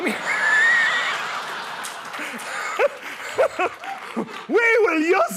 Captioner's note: laughter